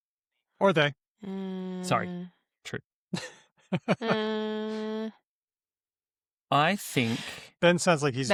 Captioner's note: laughs